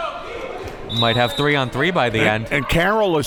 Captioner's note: whistle tweeting